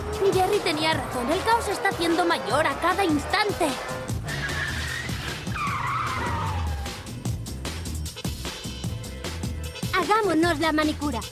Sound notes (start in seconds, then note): 4.6 tires squealing